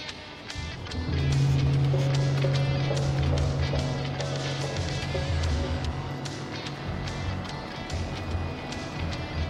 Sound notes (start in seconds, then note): 0.4 dramatic music; 0.5 vehicles rumbling